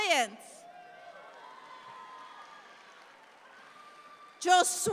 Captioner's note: audience applauds